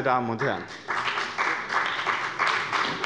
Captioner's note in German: Beifall bei dem BÜNDNIS 90/DIE GRÜNEN und der CDU